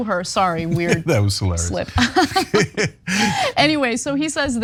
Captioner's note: laugh